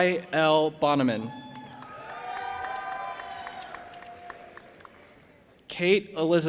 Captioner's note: audience applauding and cheering